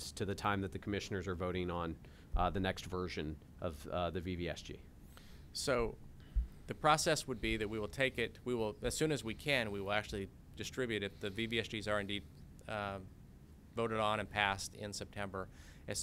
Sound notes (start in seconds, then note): 4.6 executive Director speaking